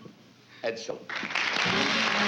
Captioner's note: applause; fanfare playing